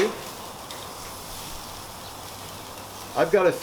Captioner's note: chicken sizzling